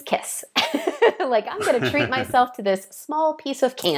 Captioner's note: laughing